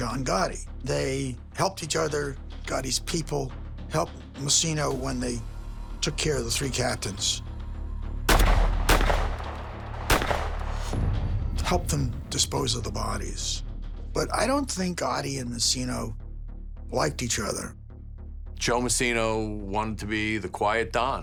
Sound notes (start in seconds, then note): 8.2 gunshots echo